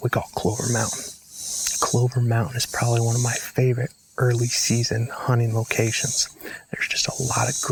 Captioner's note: whispering